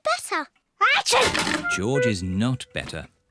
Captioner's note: sneezes